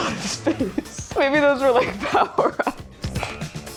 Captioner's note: laughing